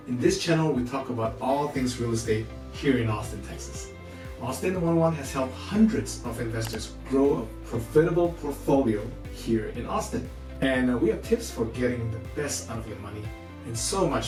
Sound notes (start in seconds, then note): 6.6 mouseclick noise